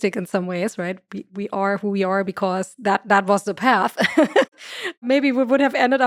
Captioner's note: laughs